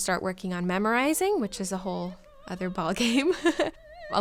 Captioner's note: laughs